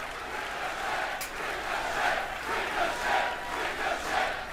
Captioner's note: crowd cheering